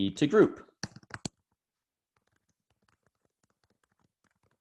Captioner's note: keyboard clicking